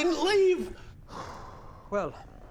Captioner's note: traumatised sigh